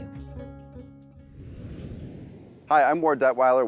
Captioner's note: whooshing